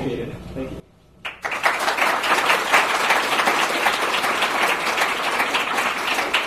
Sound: hearty applause from audience

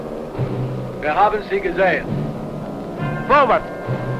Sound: German spoken audio

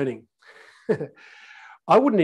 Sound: laughing

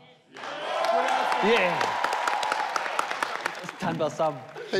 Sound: audience cheers

